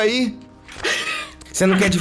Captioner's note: laugh